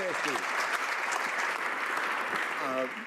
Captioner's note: some Applause